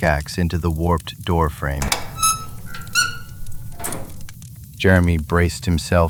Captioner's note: SFX: metal creaking